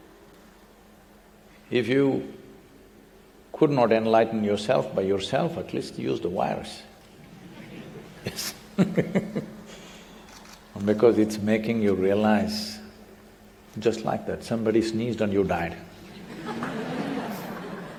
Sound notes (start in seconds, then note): 7.2 laughs; 7.3 laughter; 16.1 laughter